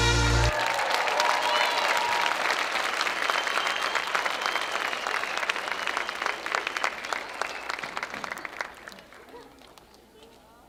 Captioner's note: applause